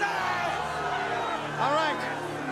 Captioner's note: crowd chatter